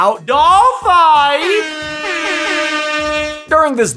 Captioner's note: horns blaring